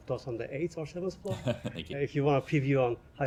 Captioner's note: laughter